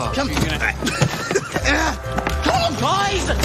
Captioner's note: Râsete